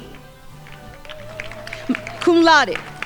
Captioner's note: crowd applauding